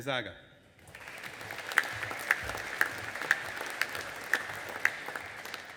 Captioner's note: audience applauding